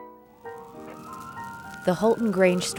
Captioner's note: flames crackle; siren wails